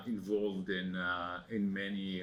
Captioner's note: non-english speech